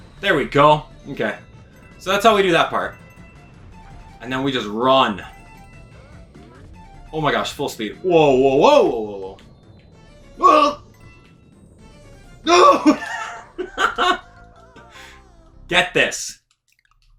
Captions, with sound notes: There we go, okay. So that's how we do that part. And then we just run. Oh my gosh, full speed. Whoa whoa whoa, whoa whoa whoa! (yells) No! (laughs) Get this.